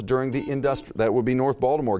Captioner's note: buzzing